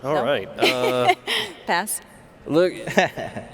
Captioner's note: laughs